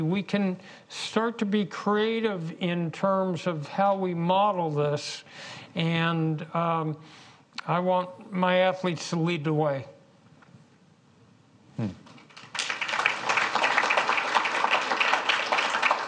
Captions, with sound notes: we can start to be creative in terms of how we model this. And I want my athletes to lead the way. (audience claps)